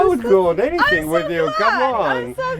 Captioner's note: laughs